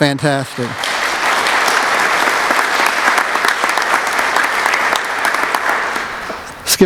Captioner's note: applause